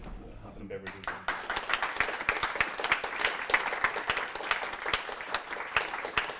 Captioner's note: applause